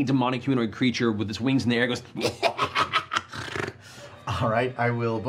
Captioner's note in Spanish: risa malévola